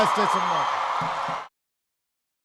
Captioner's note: applause